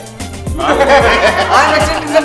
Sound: everyone laughs

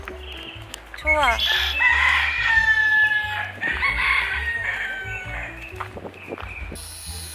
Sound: chickens are clucking

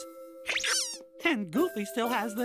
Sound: hiccups

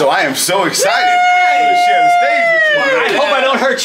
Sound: cheering

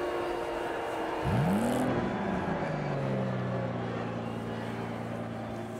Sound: limo engine revs

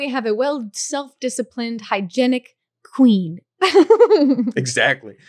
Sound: laughing

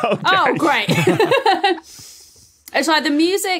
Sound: group laughing

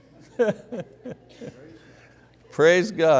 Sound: laughs

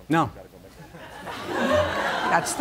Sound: laughter

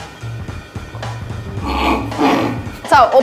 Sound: trying to sound like a chicken

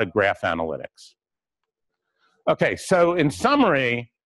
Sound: pause

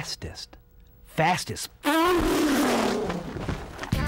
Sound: imitating race car

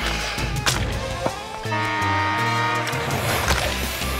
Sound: buzzer sounding

